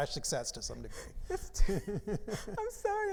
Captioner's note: both laughing